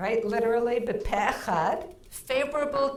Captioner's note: speaking in foreign language